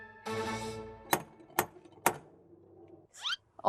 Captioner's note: knock, knock